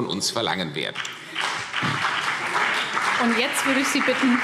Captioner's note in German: Beifall CDU und BÜNDNIS 90/DIE GRÜNEN